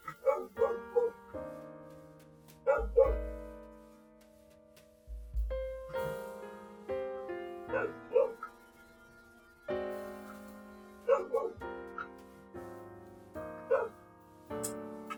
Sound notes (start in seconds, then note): 2.6 wol wool~ neighborhood dogs